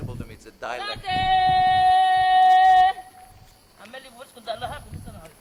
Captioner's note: chanting, speaking in greek